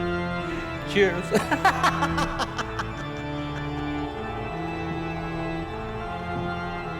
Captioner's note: Donovan laughing; laughing